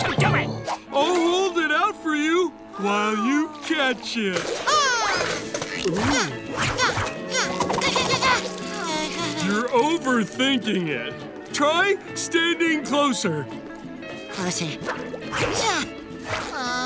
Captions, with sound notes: I'll hold it out for you while you catch it. [shrieking] [grunting] [groaning] You're over thinking it. Try standing closer. Closer. [grunting] [groaning]